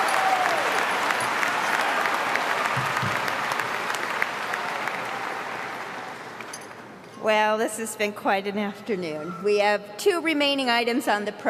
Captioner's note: applause